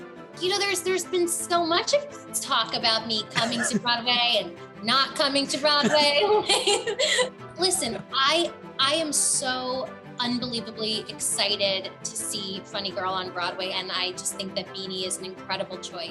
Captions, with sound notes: "You know there's been so much talk about about me coming to Broadway and not coming to Broadway *laughs* Listen, I am so unbelievably excited to see Funny Girl on Broadway and I just think that Beanie is an incredible choice."